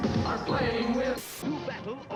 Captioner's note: TV static